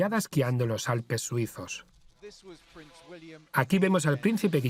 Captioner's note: voiceover